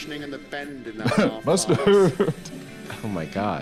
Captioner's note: laughs